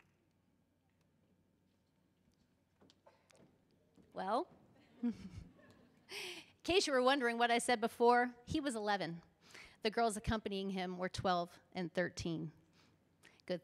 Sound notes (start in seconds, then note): 4.8 chuckles